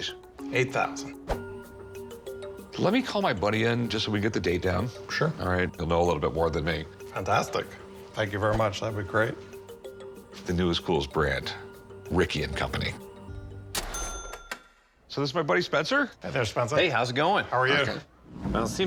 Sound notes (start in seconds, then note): none